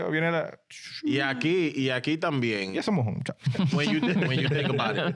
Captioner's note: laughing; speaking In Foreign Language